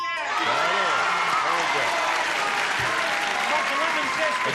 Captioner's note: cheering and applause